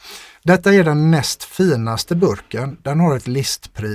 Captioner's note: scoffs